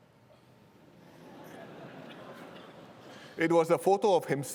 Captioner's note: laughter